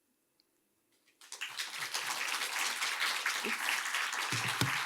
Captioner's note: audience claps